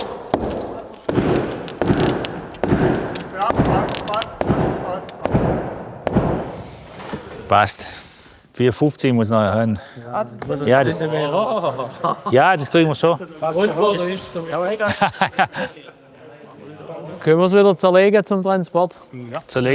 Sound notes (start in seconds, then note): 0.0 muffled hammer blows; 3.5 quiet voice; 10.7 murmuring; 14.3 murmuring, laughter